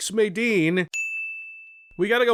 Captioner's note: ding